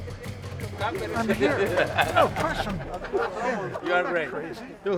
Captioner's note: laughs